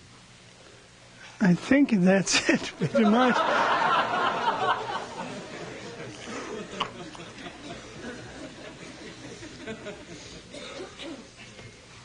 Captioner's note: laughs, laughter